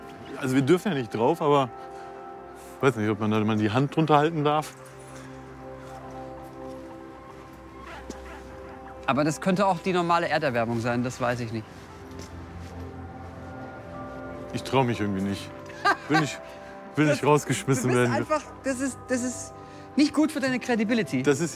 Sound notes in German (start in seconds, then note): 15.7 lacht